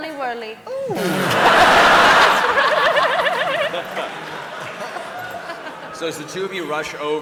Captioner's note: laughter